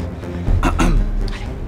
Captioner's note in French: toux